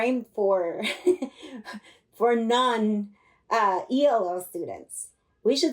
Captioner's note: laughter